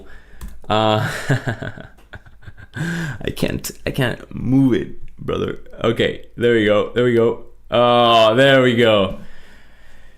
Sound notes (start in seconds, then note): 0.8 laughs